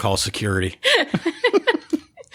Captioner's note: laughter